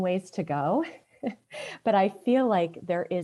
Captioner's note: chuckles